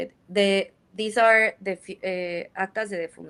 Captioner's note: speaks in Spanish